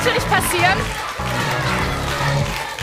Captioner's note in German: Anfeuerungsrufe